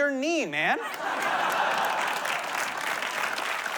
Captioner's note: laughter, applause